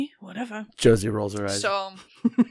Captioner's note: laughs